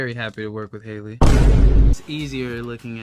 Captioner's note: door slamming